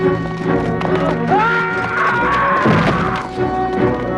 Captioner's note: man screams